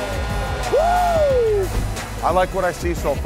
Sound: buzzer blaring; whooping

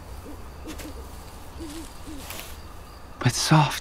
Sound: owl hooting

